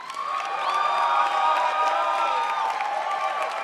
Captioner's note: crowd applauds